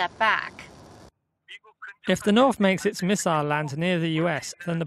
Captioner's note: Korean